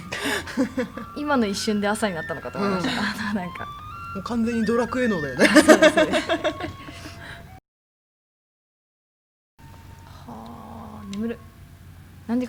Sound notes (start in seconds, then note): 4.9 laugh